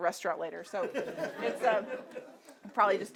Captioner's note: audience laughing